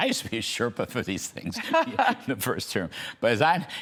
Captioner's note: laughter